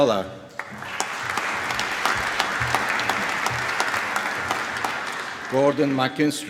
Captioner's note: applause